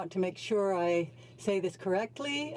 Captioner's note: speaking in french